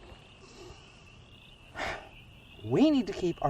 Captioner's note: Gio breaths sharply